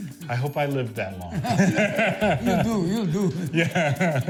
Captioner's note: laughter